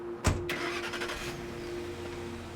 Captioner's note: truck starts